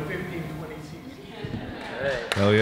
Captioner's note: audience laughing